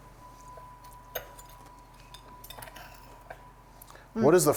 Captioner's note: plate clanking